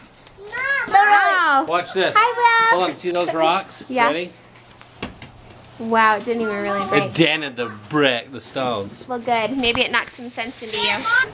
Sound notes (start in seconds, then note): 5.0 hits wall with a thud